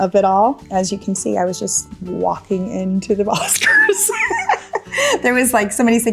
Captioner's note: laughs